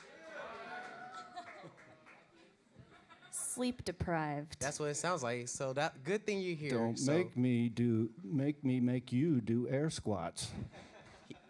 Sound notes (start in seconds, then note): 0.0 audience chatter; 10.7 audience laughter